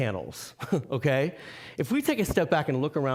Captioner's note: chuckling